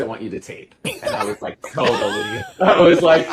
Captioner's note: laughing